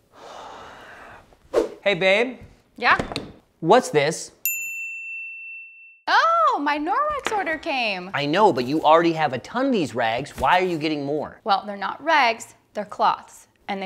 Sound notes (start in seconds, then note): 0.1 sighs; 4.4 bell dings